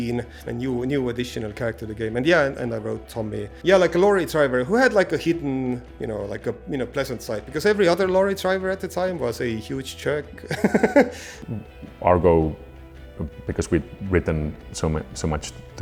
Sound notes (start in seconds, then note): 10.4 laughs